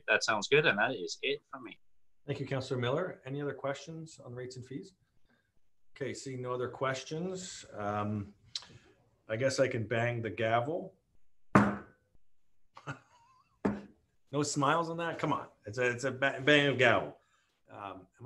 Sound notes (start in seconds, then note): 11.5 gavel bangs